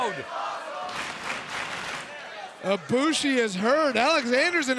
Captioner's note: applause